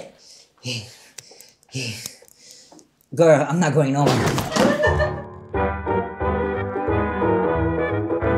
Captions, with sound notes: Girl, I'm not going nowhere. [Producer laughs] [lively music]